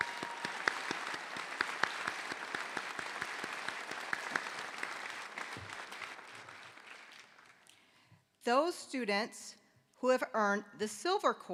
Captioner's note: applause